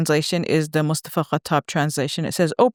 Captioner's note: speaks a foreign language